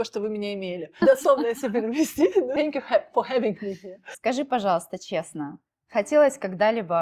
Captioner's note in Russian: смех